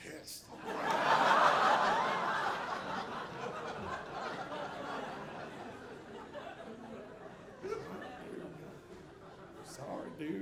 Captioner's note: audience laughing